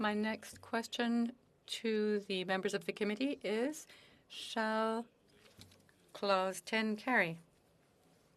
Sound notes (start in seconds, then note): 0.1 speaking French